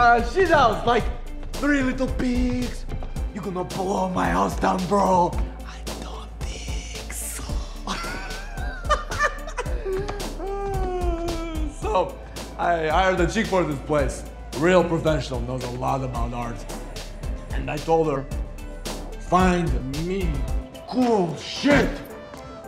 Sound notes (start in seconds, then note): 5.6 whispering; 7.6 laughs